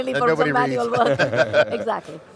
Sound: laughing

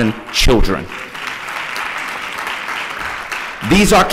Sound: applause

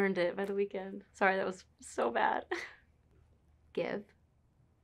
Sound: giggles

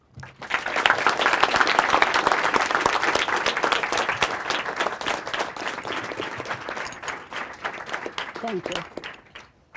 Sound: applause

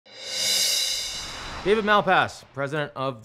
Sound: air whooshing; cymbals glistening

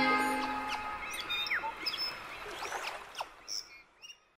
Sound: birds chirping; water splashing

